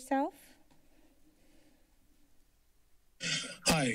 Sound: silence

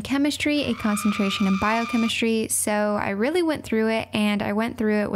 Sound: scream sound effect

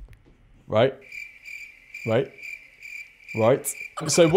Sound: crickets chirping

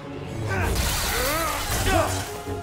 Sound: grunt

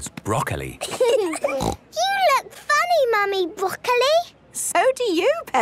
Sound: laughing, snort

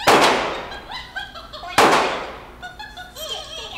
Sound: gunshots

